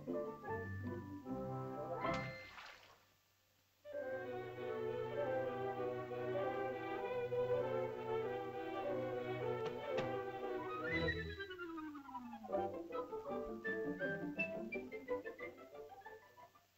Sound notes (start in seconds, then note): 2.2 water splashes; 3.8 whimsical music